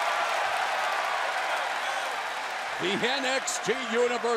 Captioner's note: crowd cheering